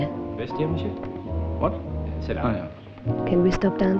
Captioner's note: French spoken audio